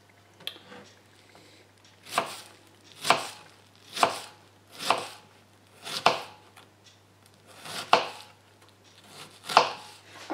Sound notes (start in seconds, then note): 2.9 chopping